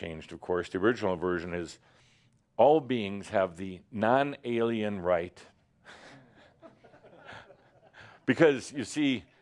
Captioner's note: a few chuckles